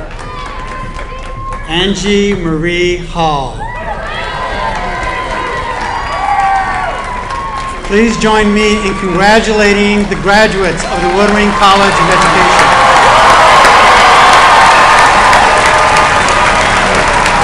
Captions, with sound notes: Please join me congratulating the graduates of the Woodring College of Education. [APPLAUSE]